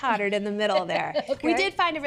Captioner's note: laughs